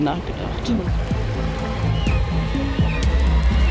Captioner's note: rising sounds